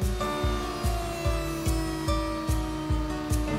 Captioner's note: router buzzing